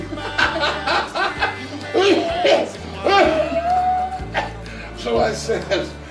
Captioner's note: everyone laughing; Jake coughing